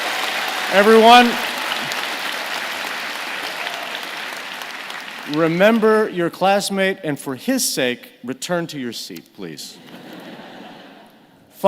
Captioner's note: applause